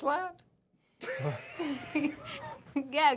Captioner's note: laughter